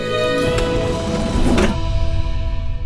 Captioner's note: Lift door poens